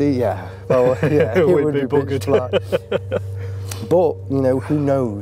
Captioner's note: laughing